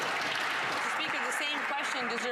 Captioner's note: some Applause